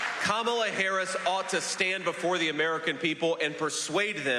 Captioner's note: applause